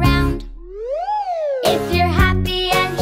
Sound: whistle whooshes

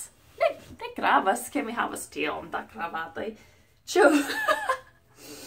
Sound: laugh

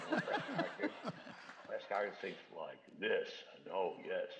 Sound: laughter; low-pitched speaking

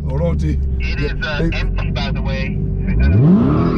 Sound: man On radio

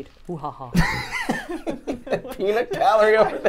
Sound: laughs

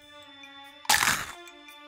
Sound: chomp

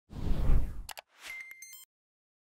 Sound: whooshing; clicking; dinging

